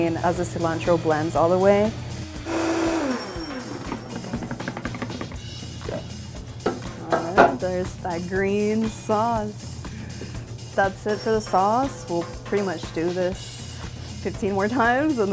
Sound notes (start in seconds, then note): 2.3 blender whirling; 4.4 upbeat music